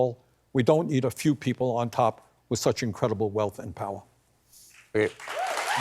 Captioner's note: applause